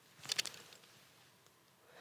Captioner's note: rustling; clicking